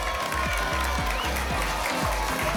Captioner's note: applause and cheering cont